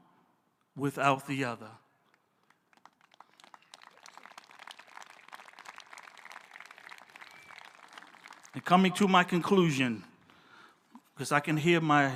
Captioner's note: applause